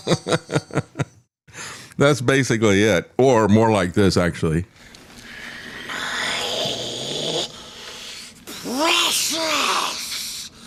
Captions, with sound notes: (Laughter) That's basically it, or more like this, actually. (Mimicking Noises) Precious.